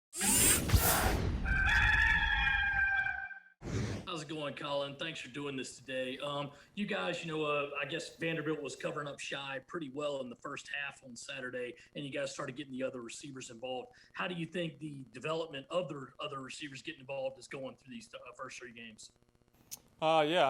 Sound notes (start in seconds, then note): 0.2 whooshing; 1.4 cock crowing